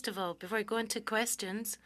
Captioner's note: speaking French